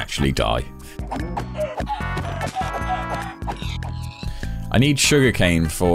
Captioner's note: animals making noise